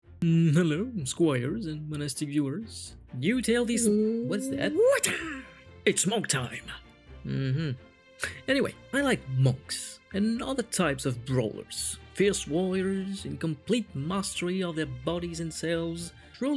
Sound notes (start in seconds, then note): 3.8 woooooooo